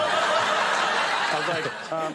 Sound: audience laughing

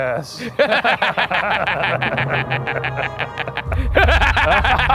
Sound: laughing hysterically

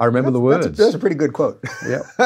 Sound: laughs

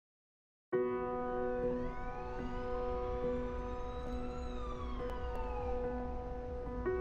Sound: pensive music; sirens ringing

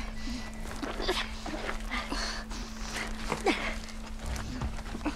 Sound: panting; panting

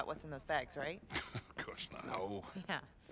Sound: laughing; laughs

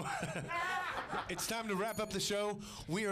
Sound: bell Rings

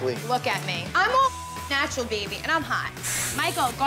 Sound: beep

